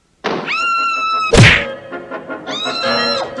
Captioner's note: door Opens & then Closes; Sweet Polly Screams; smack!; Sweet Polly Screams